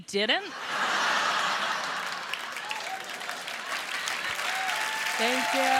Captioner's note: laughter; applause